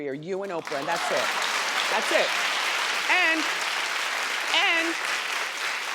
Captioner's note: crowd claps